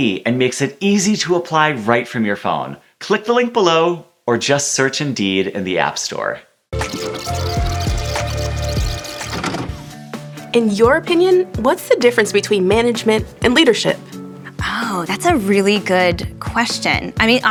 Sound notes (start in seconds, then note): 6.7 tape rewinding; 9.2 tape playing